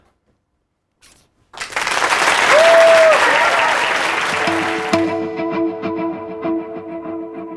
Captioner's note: applause